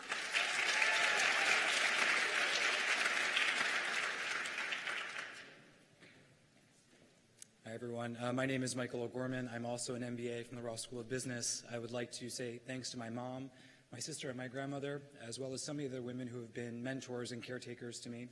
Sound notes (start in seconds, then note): 5.0 cheers and applause